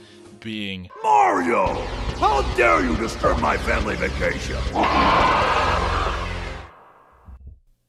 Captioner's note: roars